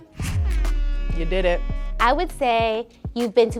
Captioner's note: buzzer